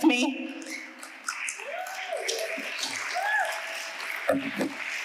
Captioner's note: audience applauding